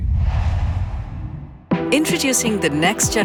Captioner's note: logo swooshes; energetic music plays